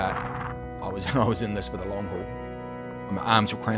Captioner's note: laughing